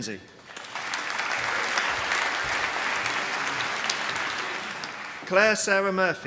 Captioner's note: applause